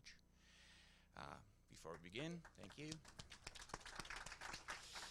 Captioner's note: audience applause